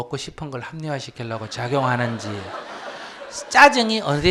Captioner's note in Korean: 청중웃음